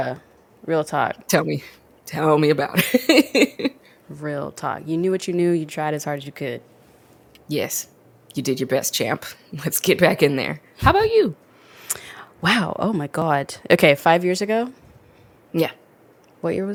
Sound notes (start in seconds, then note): 2.7 laughs